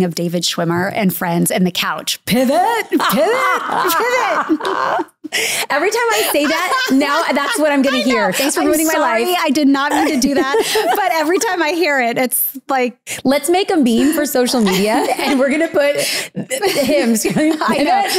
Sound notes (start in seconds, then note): 5.7 both laugh